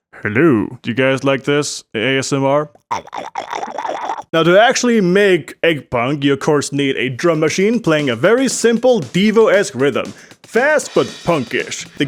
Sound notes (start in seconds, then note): 4.3 tiny goblin noises